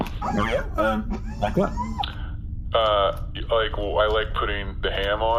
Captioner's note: laughing